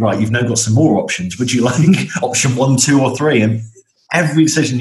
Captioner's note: chuckles